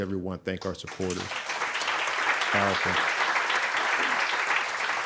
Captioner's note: audience clapping